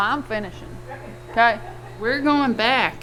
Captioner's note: man laughs